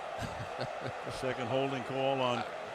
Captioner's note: chuckles